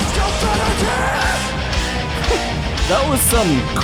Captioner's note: laughs